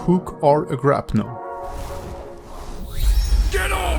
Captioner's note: air whooshes